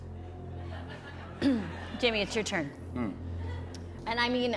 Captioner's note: normal voice